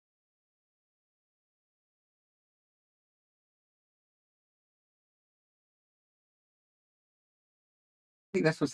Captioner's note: silence